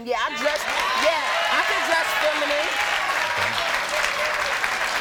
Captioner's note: audience cheers